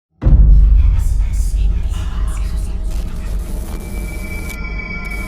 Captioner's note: spooky whispering